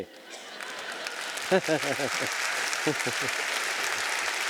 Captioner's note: audience applauding